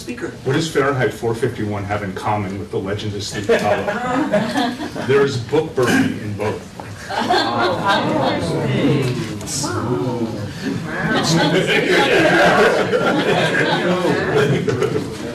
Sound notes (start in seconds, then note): 3.4 laughter; 7.0 laughter; 10.9 laughter